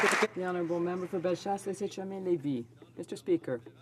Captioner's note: some Applause